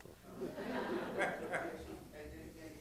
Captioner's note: laughter